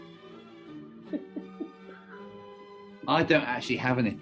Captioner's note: chuckling